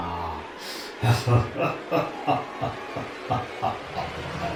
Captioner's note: laughter